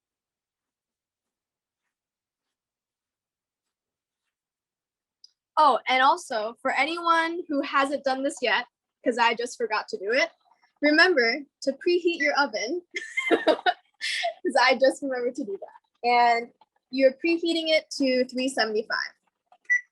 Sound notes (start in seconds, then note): 13.0 laughs; 19.7 oven beeps